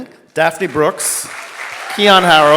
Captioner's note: audience clapping